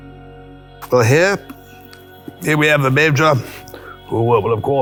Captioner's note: clipped upper class accent